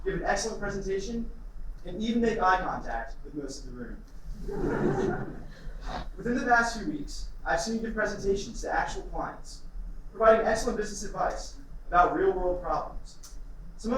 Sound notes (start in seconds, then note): 4.4 laughter